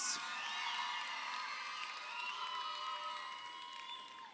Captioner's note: crowd cheering